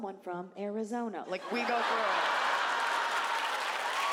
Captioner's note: audience laughs